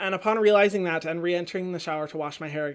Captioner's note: none